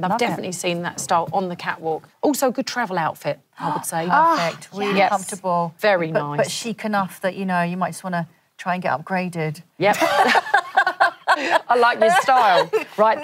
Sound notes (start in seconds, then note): 4.1 gasps; 9.9 laughter